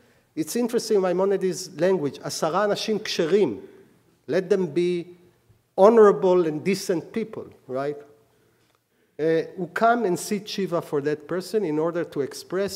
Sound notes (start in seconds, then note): 2.2 speaking hebrew